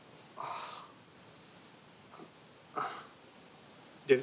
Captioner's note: sighs